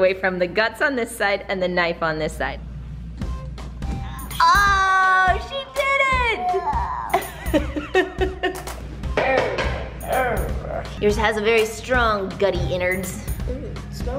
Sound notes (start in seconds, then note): 7.0 laughs